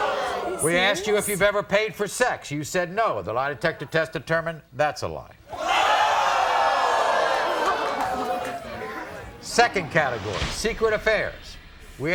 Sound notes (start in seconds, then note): 5.5 audience oohs